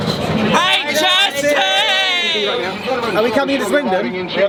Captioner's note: crowd shouts